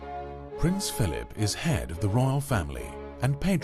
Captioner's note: voiceover